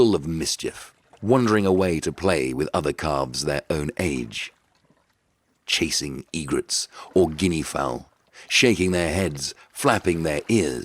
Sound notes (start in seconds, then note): none